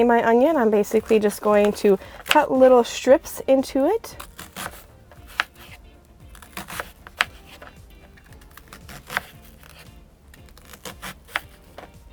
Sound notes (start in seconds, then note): 4.0 onion crunching; 4.5 soft music